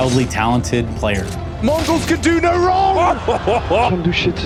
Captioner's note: commentator 2 laughing